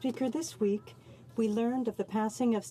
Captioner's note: speaking French